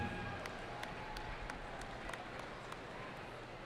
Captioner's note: cheering